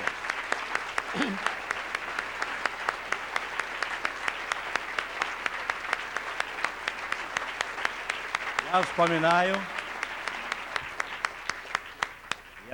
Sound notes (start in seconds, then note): 0.0 non-english speech; 0.3 applause; 8.1 non-english speech